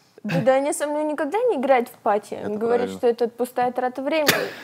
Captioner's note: laughs